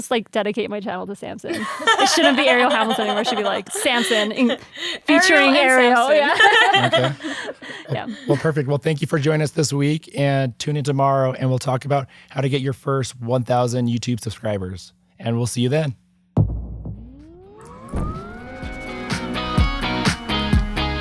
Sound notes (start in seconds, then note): 6.6 laughing; 18.7 upbeat light rock music